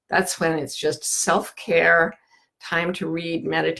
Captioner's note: none